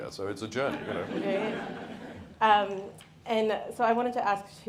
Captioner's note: audience laughs